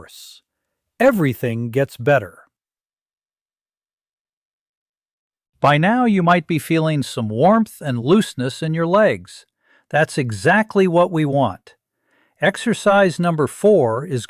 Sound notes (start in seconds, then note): 4.2 pause